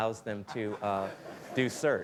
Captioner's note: laughter